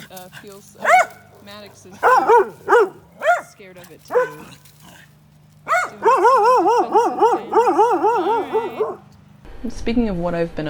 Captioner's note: bark; bark